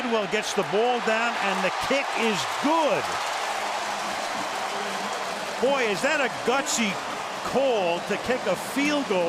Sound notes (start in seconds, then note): 3.6 cheering